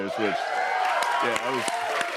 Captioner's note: cheers and applause